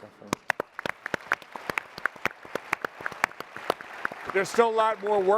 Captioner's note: applause